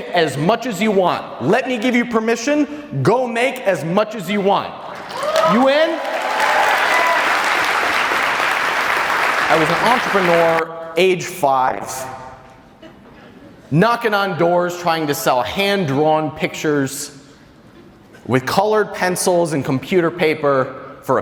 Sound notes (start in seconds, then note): 4.9 audience applause